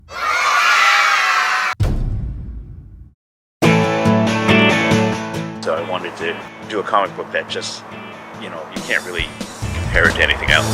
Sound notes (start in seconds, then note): 0.1 KIDS Celebrating; 1.7 slam!